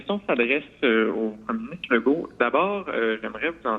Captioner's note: speaks French